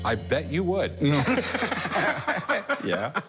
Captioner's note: laughter